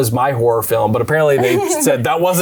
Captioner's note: laughs